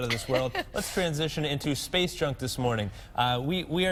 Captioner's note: laughter